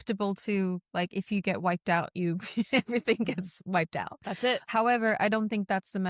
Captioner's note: laughs